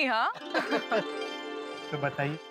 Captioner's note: laughing